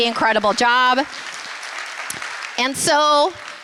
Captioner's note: applause